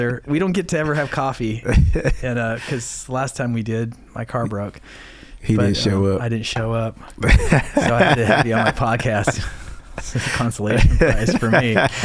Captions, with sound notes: We don't get to ever have coffee because the last time we did, my car broke. - He didn't show up. - I didn't show up. (laughing) So I had to have you on my podcast. It's just a consolation prize for me.